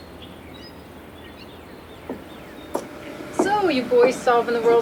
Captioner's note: birds chirping